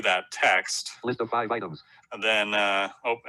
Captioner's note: automated Voice